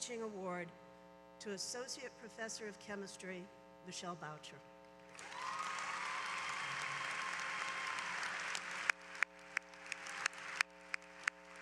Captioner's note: applause